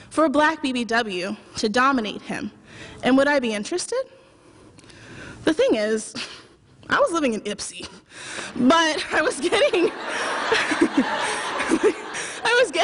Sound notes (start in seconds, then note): 9.4 laughter